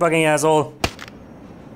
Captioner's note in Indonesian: pak!